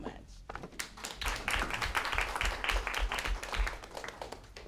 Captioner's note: applause